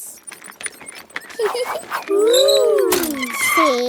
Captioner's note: giggling